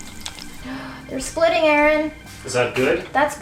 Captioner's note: pan clattering; gasps